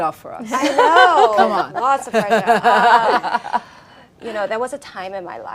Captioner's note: laughing